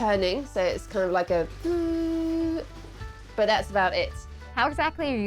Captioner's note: humming